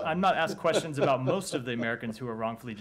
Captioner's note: laughter